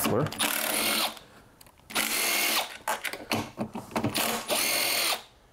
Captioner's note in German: Aufprallbohrmotor brüllt